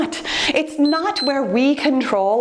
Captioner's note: timer beeps